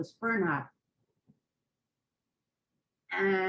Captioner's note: pauses for 3 seconds